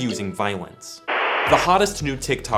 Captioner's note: static